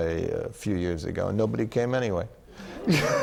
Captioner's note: laughter